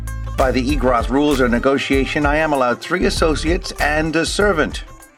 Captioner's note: none